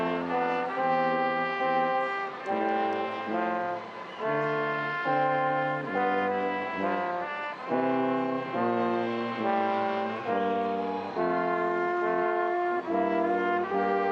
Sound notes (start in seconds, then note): 5.4 stately music continues; 10.3 audience cheering